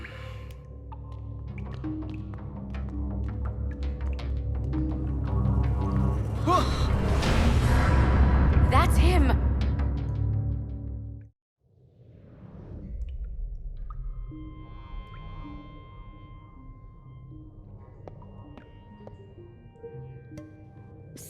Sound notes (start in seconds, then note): 0.0 suspense music; 6.4 Brax gasps; 19.2 suspense music